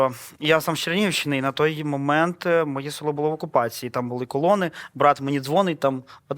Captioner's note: russian